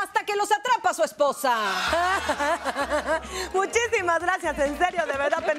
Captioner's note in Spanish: Ríe